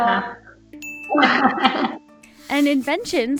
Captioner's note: laughing